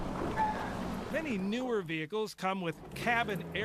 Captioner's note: voiceover